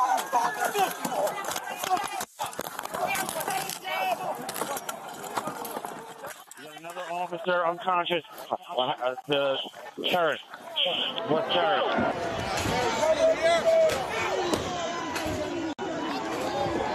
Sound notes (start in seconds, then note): 7.2 angry crowd noises